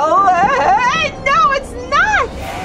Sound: gasps

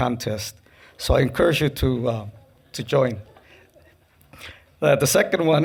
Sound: laughing

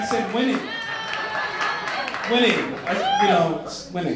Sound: laughing and applause

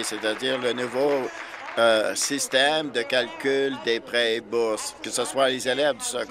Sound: applause

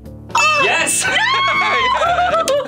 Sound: both exclaiming; bell dings; laughing; claps

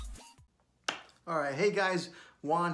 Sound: hand clapping

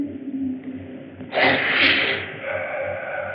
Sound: sniffs

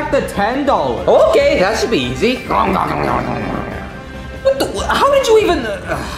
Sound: munching

